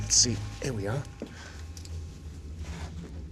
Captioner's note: exhales